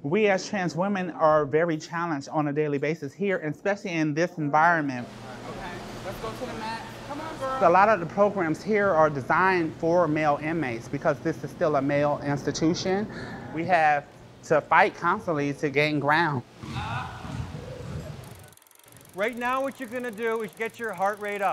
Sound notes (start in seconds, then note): 18.3 wheels spinning